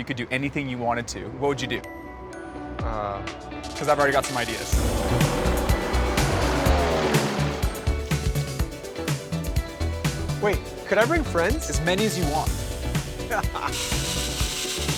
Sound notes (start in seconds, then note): 4.5 engine revs; 5.0 sweeping music; 7.9 upbeat music; 13.2 laughs